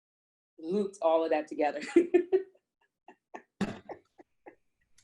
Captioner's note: laughs